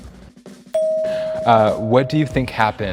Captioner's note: bell dings